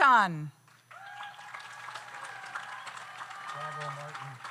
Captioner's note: audience applauds; audience cheers